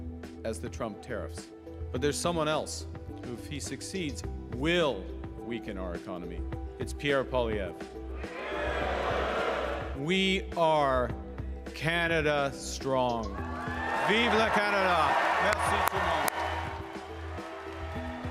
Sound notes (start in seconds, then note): 13.5 booing; 17.4 cheering and Applause